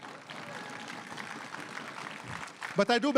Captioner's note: crowd cheering and applauding